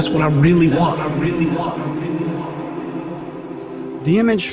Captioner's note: voice echoes